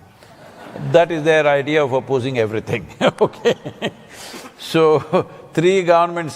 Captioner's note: laughs